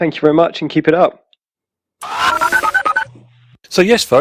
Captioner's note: voicemail ends